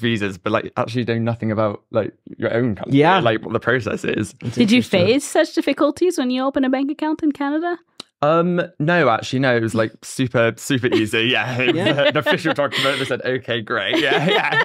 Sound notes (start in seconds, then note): 10.9 laughs